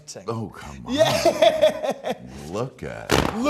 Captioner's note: laughs